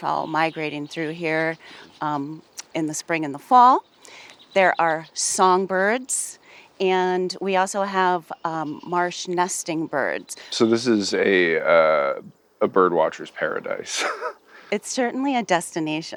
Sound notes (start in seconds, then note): 12.6 laughing